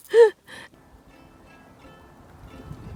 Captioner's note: laughs